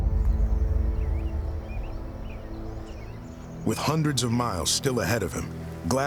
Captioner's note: birds chirping